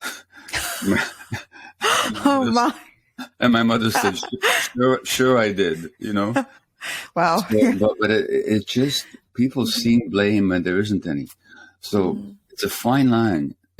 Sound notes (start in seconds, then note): 0.1 both laugh; 7.4 laughs